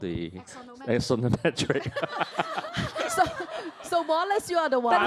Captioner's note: all laugh